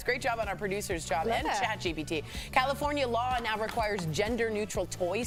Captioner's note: laughter